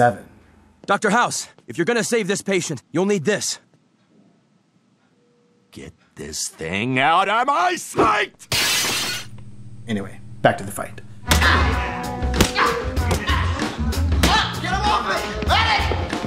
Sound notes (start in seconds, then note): 8.4 crash; 11.2 punch